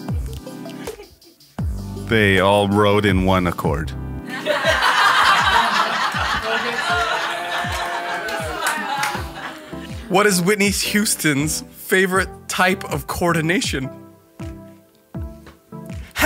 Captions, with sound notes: They all rode in one Accord. (laughing) - What is Whitney Houston's favorite type of coordination?